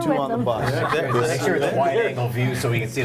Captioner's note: group laughing